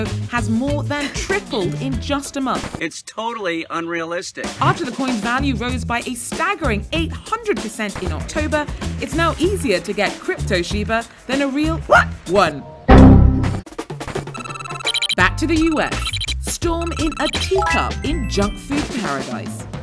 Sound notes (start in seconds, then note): 11.8 barks; 12.6 Microsoft Windows XP error sound